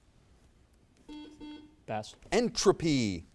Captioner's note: buzzer